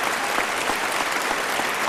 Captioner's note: applause